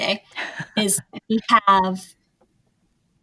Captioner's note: laughs